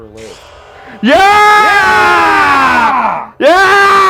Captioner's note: both cheering